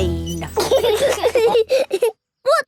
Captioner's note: laughing